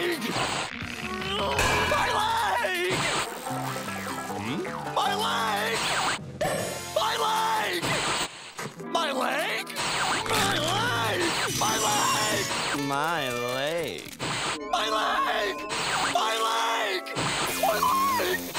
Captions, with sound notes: [grunting] My leg! My leg! My leg! My leg? My leg! My leg! My leg. My leg! My leg! My leg!